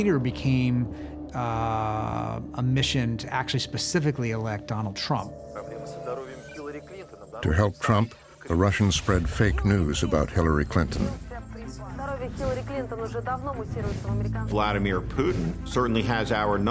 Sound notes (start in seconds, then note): 5.3 man speaking Russian; 12.1 reporters speaking Russian